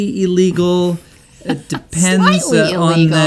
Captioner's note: laughs